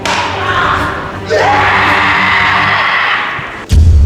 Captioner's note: incredible shouts that seem to tear through the sky